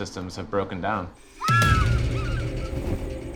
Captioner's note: animal shrieking